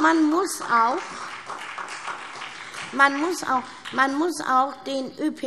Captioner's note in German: Beifall SPD